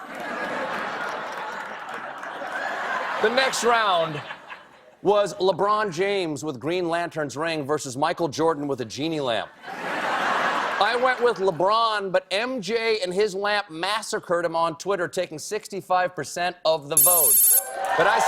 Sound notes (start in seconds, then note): 0.0 laughter